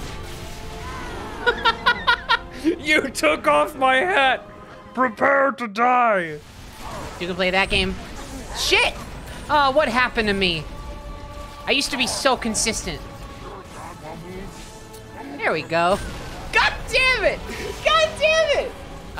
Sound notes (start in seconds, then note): 1.2 laughing; 1.9 growly voice